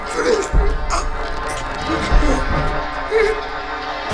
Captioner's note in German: würgt